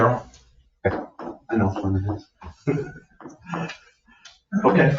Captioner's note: laughs